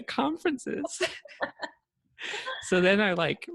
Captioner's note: laughter